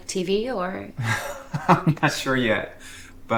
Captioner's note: Thomas chuckles